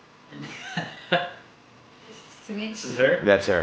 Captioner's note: chuckling